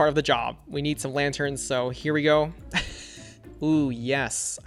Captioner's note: laughs